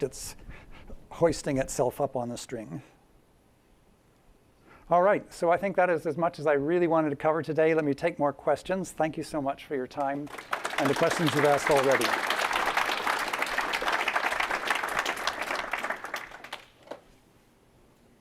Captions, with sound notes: it's hoisting itself up on the string. All right, so I think that is as much as I really wanted to cover today. Let me take more questions. Thank you so much for your time and the questions you've asked already. [APPLAUSE]